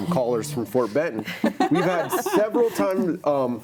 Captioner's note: panelists laughing